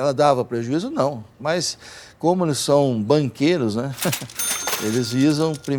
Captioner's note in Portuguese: tilintar de caixa